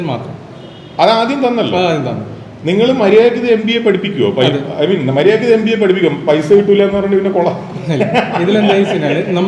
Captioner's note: sarcastic laugh